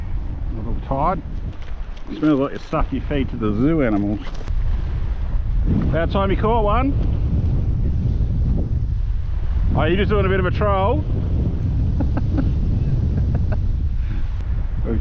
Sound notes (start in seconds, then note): 11.9 chuckle